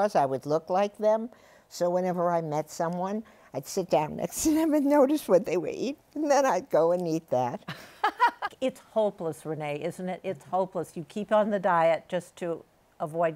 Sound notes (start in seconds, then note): 7.7 laughs